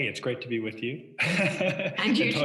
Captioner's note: laughs